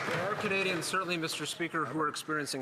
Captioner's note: some Applause